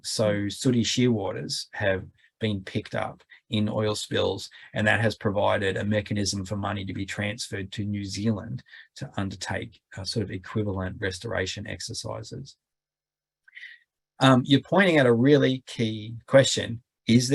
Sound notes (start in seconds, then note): none